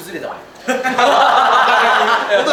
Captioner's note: laughter